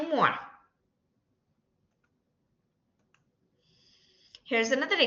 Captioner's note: silence